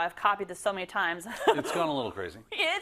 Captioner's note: laugh